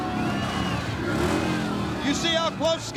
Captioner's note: motorbike revving